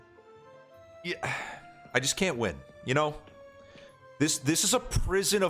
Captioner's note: sighs